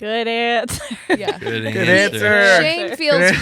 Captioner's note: laughing